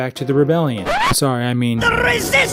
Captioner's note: record scratch